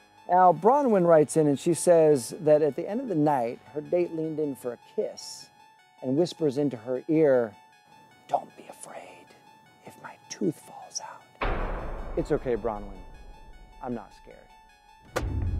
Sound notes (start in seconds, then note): 11.4 gun bangs